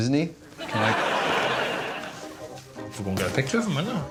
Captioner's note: audience laughing